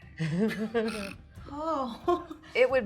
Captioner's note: laughing